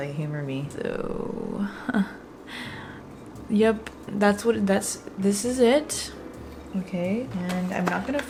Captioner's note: laughs